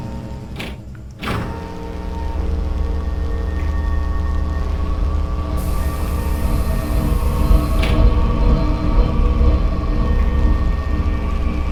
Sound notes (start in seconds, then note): 5.3 brooding music continues; 5.3 siren wailing